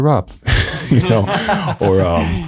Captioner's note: all chuckling